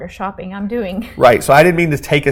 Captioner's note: laughs